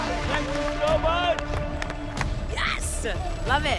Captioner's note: applause